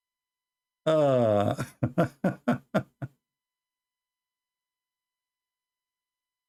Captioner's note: Ketawa